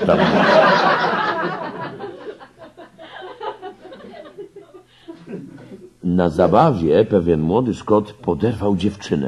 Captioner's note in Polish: śmiech